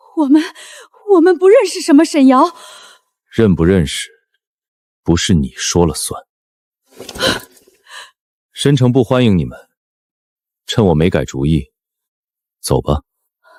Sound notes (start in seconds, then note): 7.8 gasp!